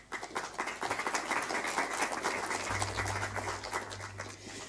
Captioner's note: audience applauding